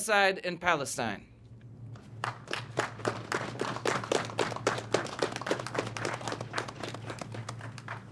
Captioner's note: applause